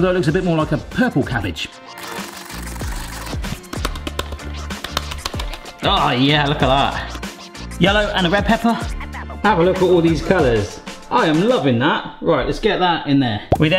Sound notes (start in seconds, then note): 2.0 grater grating; 2.0 grater slapping